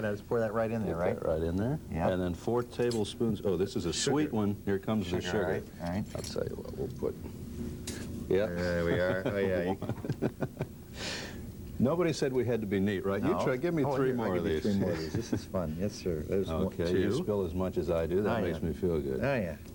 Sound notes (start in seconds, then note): 8.6 chuckling